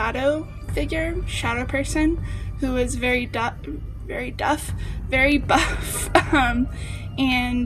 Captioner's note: laughs